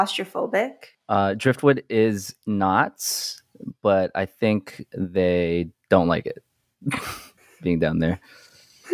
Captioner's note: laughs